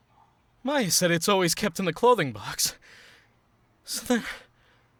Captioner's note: heavy breathing